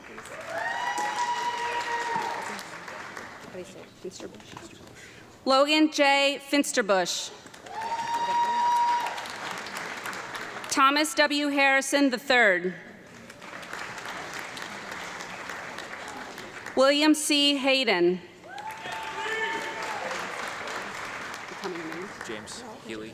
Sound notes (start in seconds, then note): 0.0 audience clapping and cheering; 7.4 audience clapping and cheering; 13.0 audience clapping; 18.4 audience clapping and shouting